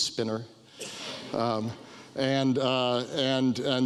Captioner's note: audience laughs